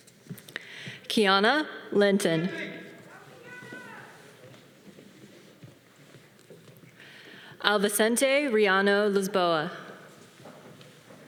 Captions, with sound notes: Keana Lenton. (audience cheering) Afasnte Rihanna Lusmboa.